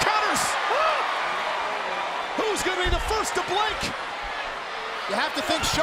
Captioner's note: applause